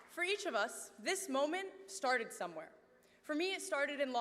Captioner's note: cheers